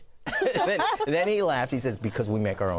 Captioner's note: laughter